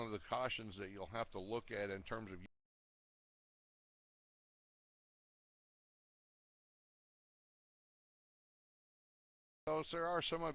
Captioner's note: audio drops